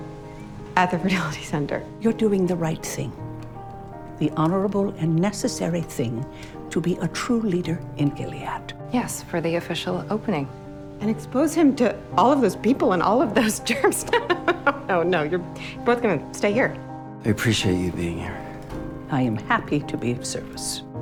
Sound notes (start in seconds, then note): 13.6 laughing